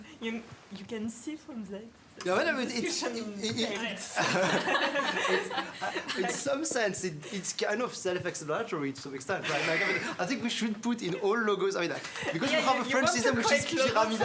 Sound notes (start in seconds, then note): 6.2 indistinct conversation; 9.5 laughter